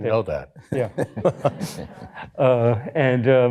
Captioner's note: laughter